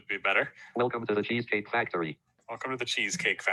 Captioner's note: automated Voice